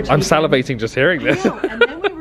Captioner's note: laughing